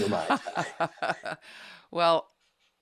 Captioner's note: light laughter